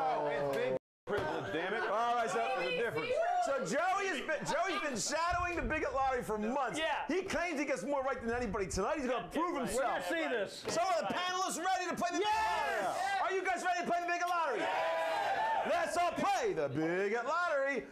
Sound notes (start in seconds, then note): 14.2 audience cheering